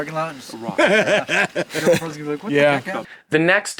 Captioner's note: laughs